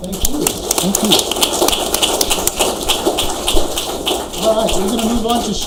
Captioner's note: audience applauds